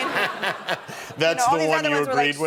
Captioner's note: laughter